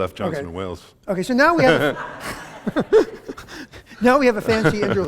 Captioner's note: laughter